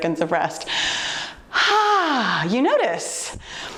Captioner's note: exhales sharply